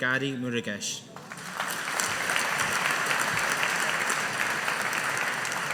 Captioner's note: audience applauding